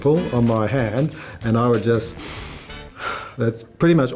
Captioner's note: breathes deeply